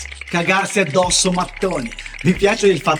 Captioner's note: Italian